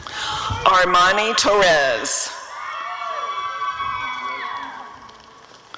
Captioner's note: audience cheering